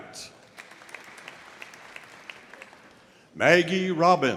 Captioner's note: audience applauding